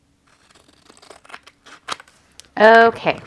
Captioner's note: scissors cutting